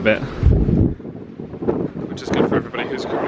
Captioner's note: wind buffeting mic